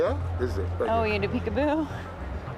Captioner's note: laugh